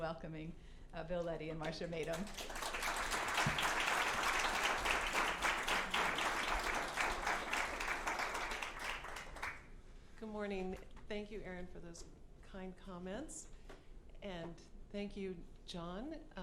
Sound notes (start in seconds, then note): 4.3 applause